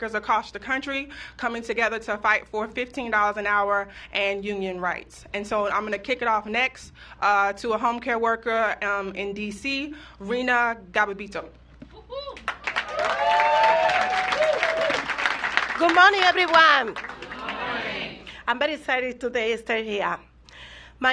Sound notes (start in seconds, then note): 10.6 applause